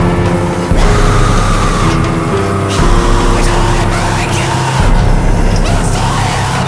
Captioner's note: screams